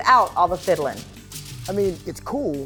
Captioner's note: paper crumpling